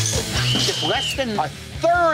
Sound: whistle blows

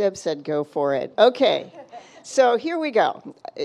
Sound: laughing

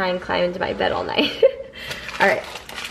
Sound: laughs

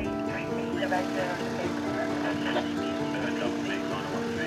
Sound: police radio chattering

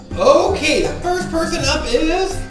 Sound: voiceover

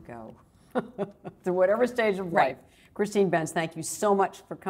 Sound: laughs

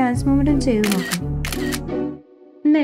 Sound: camera clicks; performing famous Hindi song

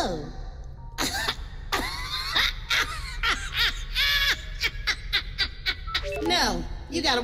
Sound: hearty laugh

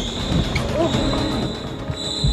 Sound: grunting

